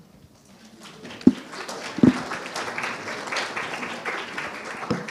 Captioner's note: audience applauding